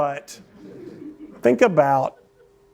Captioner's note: laughter